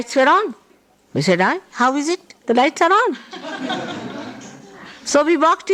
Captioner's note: laughter